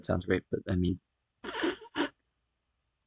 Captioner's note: giggling